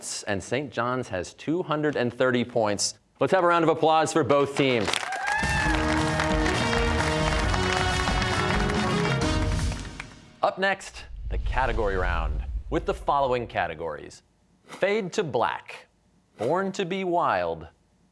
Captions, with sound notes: and Saint John's has 230 points. Let's have a round of applause for both teams. (cheers and applause) Up next, the category round with the following categories: Fade to Black, Born to Be Wild,